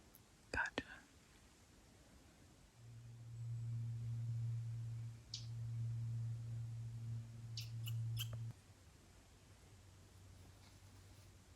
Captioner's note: birds chirping